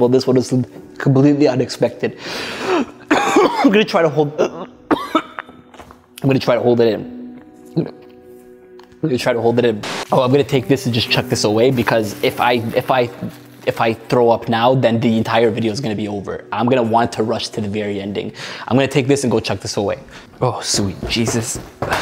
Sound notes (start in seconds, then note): 2.6 coughs; 5.8 coughs